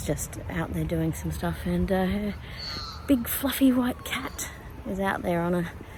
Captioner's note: more magpie sounds